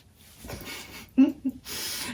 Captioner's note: whispers